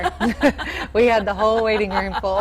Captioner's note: both laughing